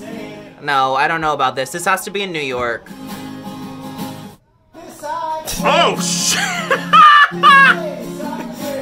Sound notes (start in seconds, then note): 5.6 laughs